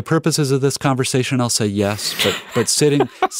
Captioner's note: laughing